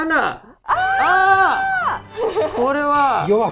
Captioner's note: cheers